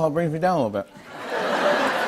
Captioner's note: laughter